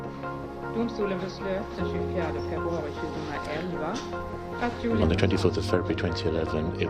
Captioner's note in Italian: conferenza in sottofondo